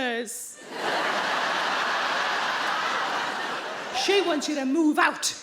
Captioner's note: crowd laughs